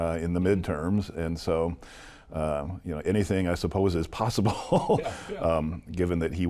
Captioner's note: laughs